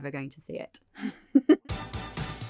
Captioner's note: laughter